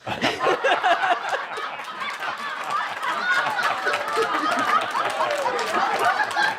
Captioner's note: lots of laughter